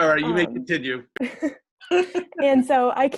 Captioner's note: presenters laughing